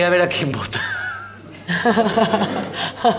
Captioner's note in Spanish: Risas